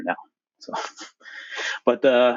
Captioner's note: laughs